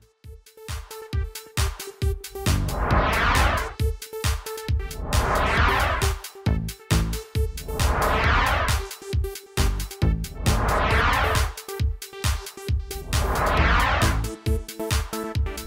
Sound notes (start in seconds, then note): 0.2 techno music; 2.5 whooshing; 13.0 whooshing